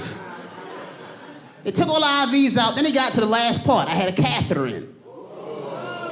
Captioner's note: audience gasp